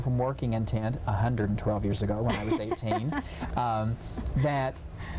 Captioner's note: laughing